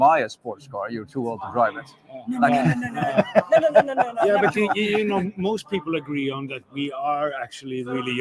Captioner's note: laughter